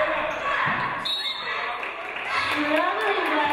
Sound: referee blows whistle; audience applauding

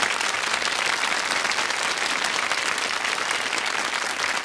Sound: audience applauds

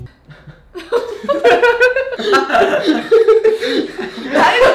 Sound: laughing

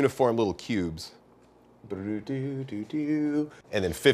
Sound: hums song

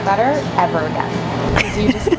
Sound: laughing

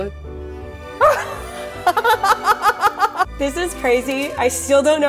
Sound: laughs

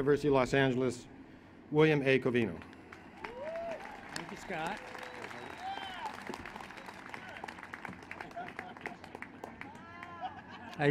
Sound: applause

